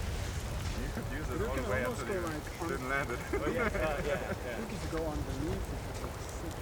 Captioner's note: group chatting